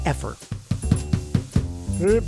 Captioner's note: door knocking